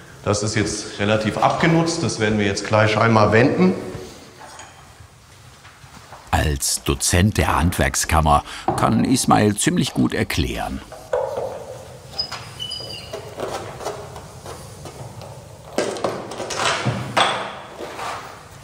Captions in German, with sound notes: Das ist jetzt relativ abgenutzt, das werden wir gleich einmal wenden. Als Dozent der Handwerkskammer kann Ismail ziemlich gut erklären. (Quietschen) (Klappern, Scheppern)